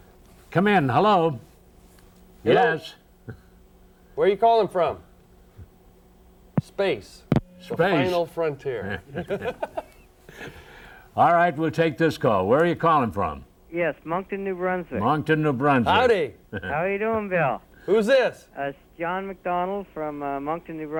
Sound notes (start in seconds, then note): 8.7 men laugh